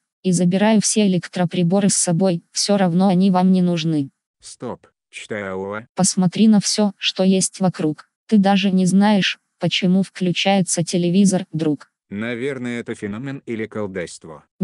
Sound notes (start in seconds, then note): none